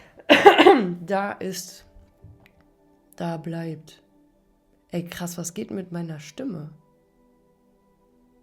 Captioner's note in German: räuspern